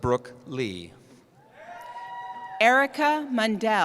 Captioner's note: cheering